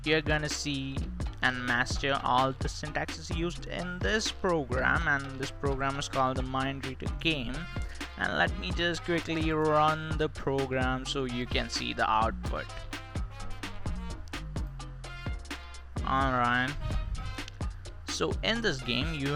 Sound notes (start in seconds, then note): 17.6 heavy Breathing LMAO